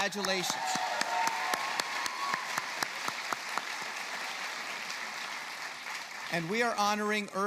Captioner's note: applause